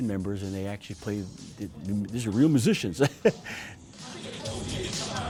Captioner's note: laughing